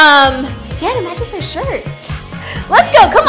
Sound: laughs

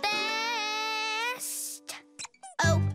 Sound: squeaks

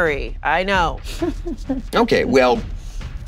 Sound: chuckling

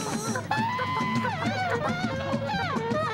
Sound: clucking

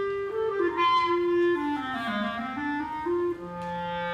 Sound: none

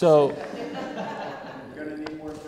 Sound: laughter

